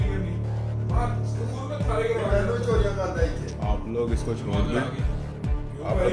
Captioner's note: crowd shouting